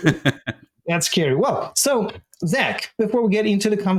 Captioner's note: laughter